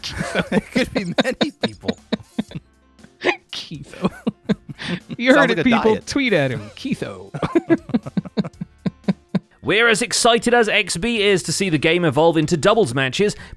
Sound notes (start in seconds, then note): 0.0 still laughing; 7.3 chuckles